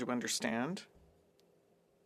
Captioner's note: speaking French